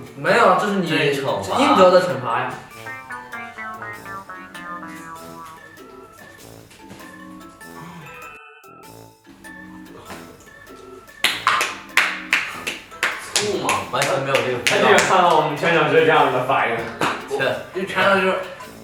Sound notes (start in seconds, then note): 11.2 a few claps